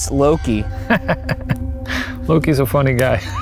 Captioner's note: chuckles